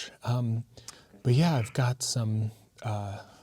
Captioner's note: none